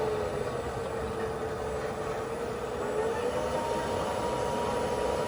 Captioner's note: leaf blower humming